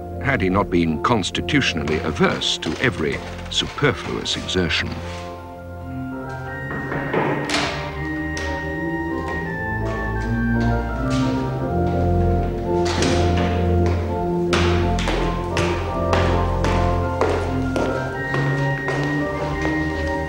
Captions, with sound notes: had he not been constitutionally averse to every superfluous exertion. [KNOCK]